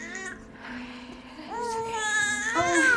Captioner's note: baby crying; crying